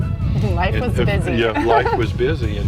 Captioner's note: laughs